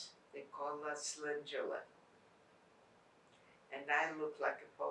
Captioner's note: non-english